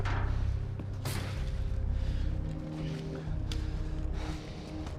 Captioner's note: breathing heavily